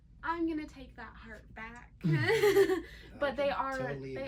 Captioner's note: laughs